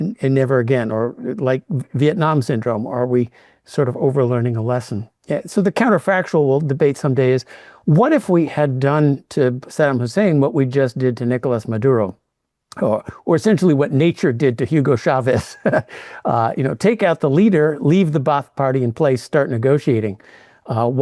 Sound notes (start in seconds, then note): 15.3 chuckles